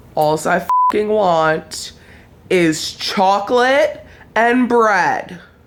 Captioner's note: beep